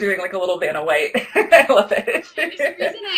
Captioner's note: laughter